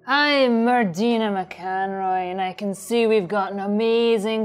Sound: none

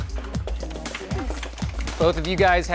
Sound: light applauding

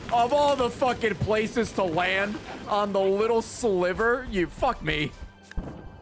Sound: none

